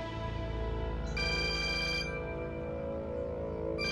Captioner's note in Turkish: Telefon çalıyor